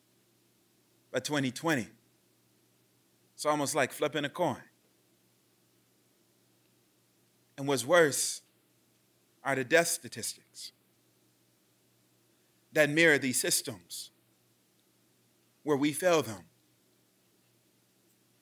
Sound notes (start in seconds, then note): none